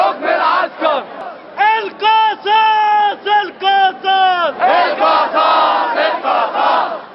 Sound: chants

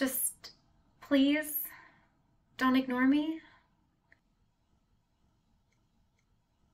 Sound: none

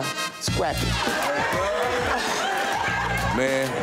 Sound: applause

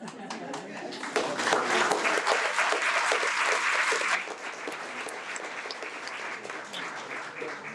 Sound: audience clapping

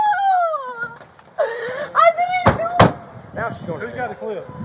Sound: crying

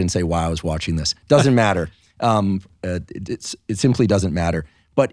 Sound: laughing

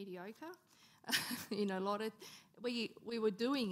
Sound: laughing

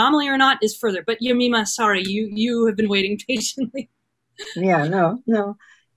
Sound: chuckles

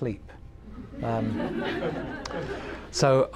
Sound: laughter

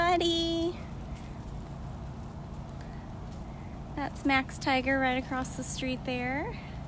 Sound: chuffing

